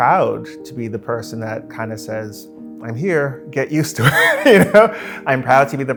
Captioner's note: laughs